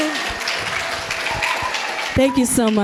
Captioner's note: audience cheering and applauding